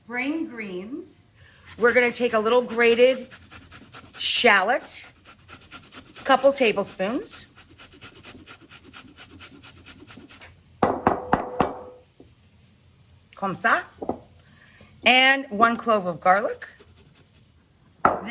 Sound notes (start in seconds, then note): 10.9 grater bangs